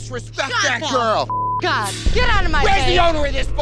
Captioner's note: beep